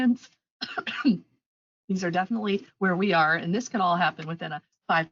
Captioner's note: coughs